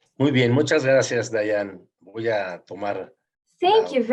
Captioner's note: speaking in foreign language